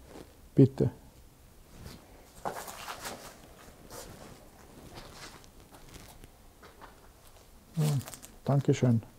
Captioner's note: silence in the background